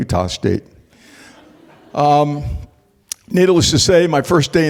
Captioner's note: laughter